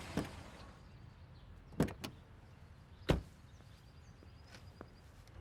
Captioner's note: doors open and close